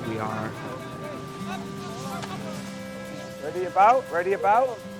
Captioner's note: sailor shouting